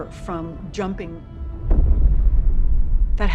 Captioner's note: loud booms